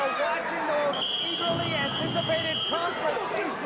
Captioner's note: whistling